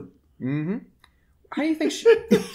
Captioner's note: chuckles